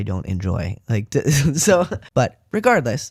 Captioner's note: laugh